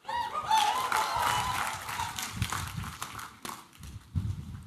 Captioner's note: applause and cheering